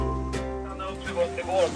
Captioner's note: VHF radio